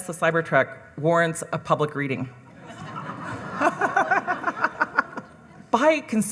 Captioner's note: audience laughing